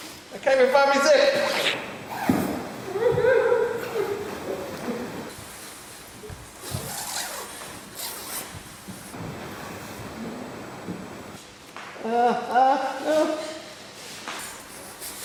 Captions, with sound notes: I can't even find my zip! [whimpering] [zip noises] Ah.. ah... ah...